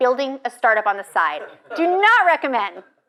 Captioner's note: audience laughs